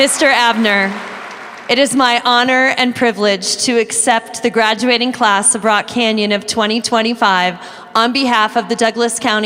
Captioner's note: applause